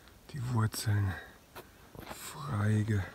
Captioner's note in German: none